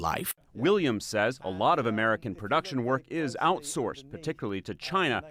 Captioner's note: voice-over